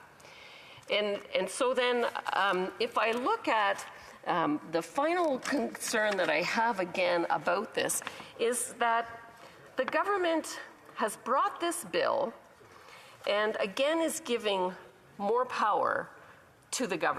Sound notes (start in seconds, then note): none